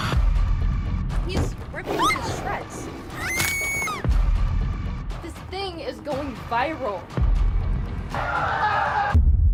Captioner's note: screaming